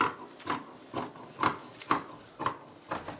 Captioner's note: cutting noises